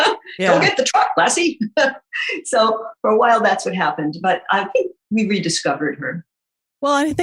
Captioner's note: guffaw